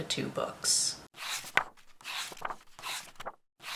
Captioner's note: pages turning